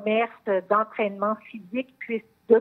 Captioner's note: speaking French